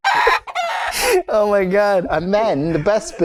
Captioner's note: laughter